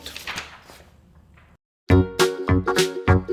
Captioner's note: paper rustles; upbeat music